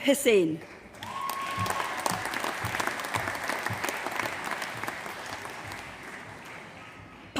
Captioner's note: applause